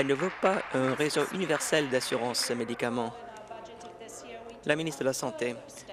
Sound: applause

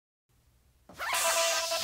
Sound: zipper

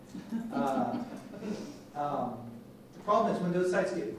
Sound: laughing

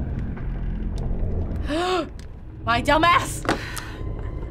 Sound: gasping

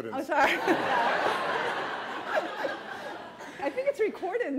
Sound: laughter

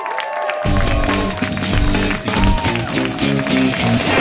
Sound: applause

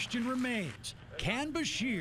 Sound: cheers

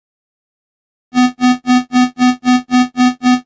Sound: sound of signal alert

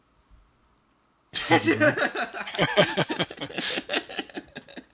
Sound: laughter

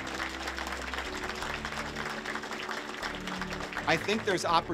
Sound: applause

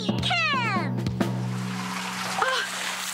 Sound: running Water

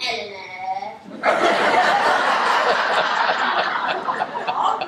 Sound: laughter

